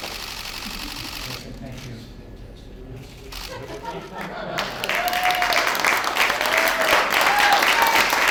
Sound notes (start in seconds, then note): 4.5 applause